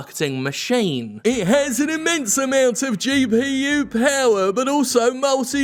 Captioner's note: mimicking voice